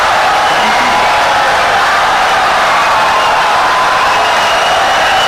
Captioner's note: audience cheering, applauding for 17 seconds